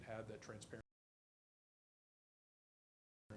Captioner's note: audio drops out